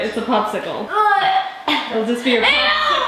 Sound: kids gagging

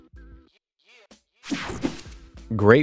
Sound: screen whooshing

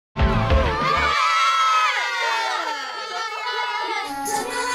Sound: all exclaim; all singing along in Korean

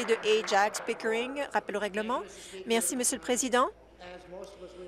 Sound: applause

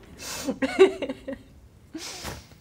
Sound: laughter continues

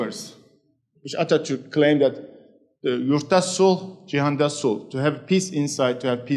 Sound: speaking in foreign language

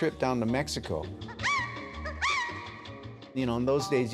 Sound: singer shrieks

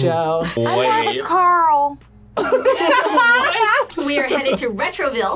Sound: laughs

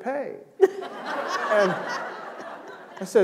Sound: laughter

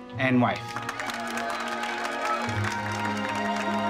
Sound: applauding

